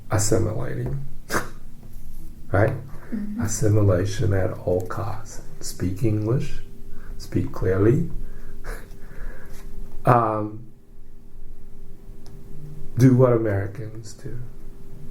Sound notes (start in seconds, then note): 9.4 laughs